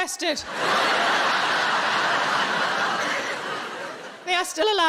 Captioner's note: audience laughing